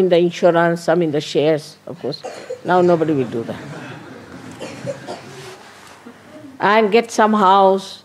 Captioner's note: laughter